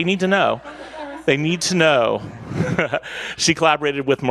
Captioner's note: laughs